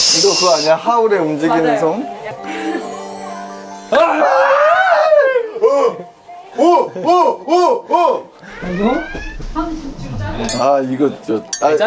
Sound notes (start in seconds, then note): 4.0 disgusted